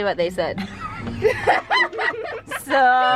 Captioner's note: kids laugh